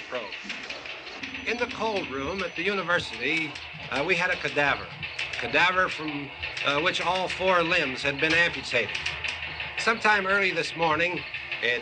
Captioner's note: TV news continues in background; TV news continues